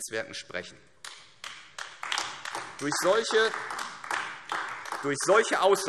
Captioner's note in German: Beifall AfD